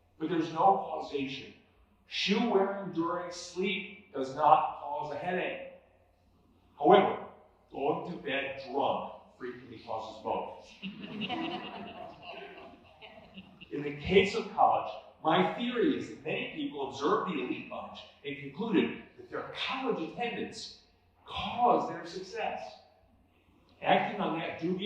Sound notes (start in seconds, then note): 10.8 laughter